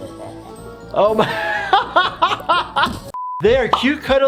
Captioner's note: Flippy laughing evilly; laughs